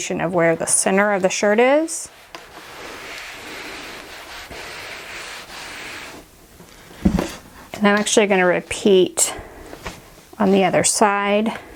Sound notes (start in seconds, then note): 2.3 scraping; 7.0 thudding